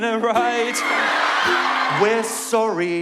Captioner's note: cheer